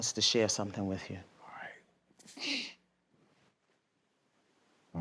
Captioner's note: sniffs